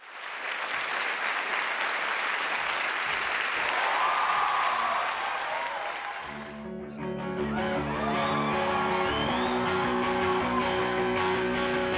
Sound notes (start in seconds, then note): 0.0 audience clapping; 4.4 audience cheering; 6.4 rock music begins